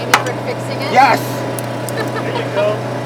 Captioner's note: laughs